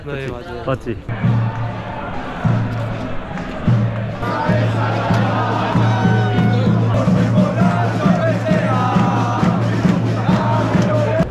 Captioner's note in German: Beifall